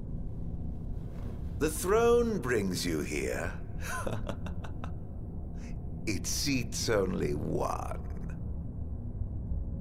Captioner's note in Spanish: risas